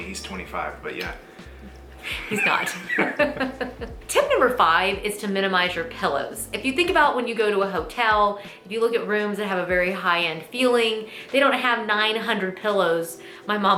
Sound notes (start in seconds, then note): 2.0 both laughing